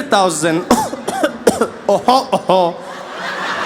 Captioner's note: coughing